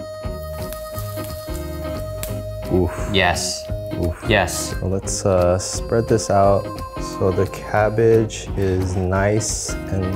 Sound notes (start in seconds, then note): 0.2 pan sizzling